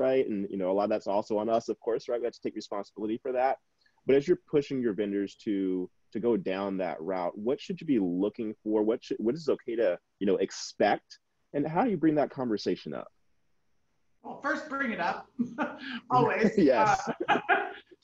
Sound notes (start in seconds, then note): 15.4 chuckling; 15.4 people chuckling